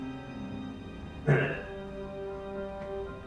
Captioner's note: grunts obnoxiously